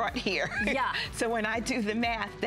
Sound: laughter

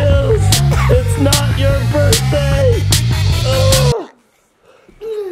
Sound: exclaims

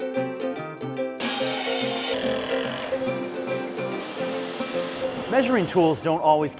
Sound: whirring

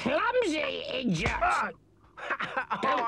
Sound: hand smacks

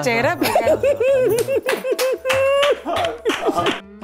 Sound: Harshad giggling; Vandana clapping

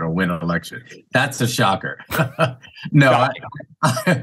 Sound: chuckles

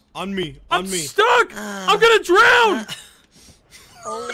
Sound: moans; laughs

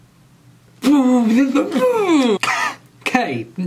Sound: disgusted noises

